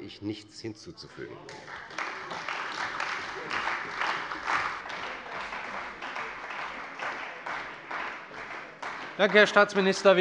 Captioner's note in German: Beifall bei der CDU und dem BÜNDNIS 90/DIE GRÜNEN